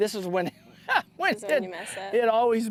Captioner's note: laughter